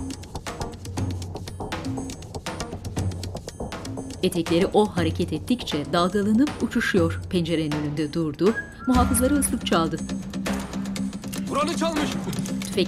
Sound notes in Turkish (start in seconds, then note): 4.1 Müzik - Gerilim; 8.4 Islık sesi